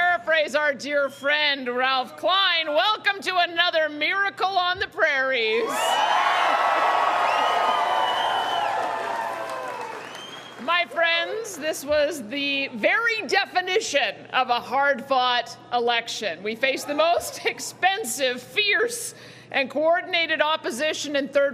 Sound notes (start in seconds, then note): 9.5 cheering